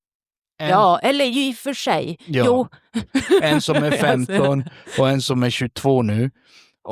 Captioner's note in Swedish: skratt